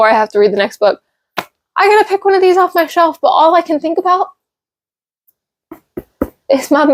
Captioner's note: taps book